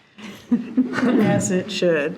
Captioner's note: participants laughing